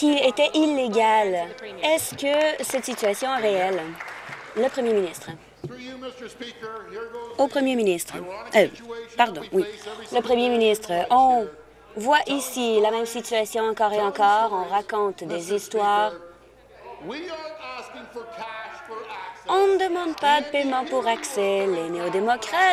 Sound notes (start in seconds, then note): 6.3 applause